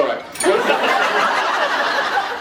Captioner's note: laughs